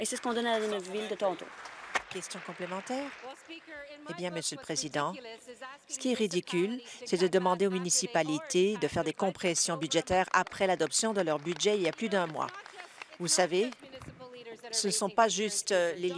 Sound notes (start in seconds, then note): 2.9 applause; 15.2 applause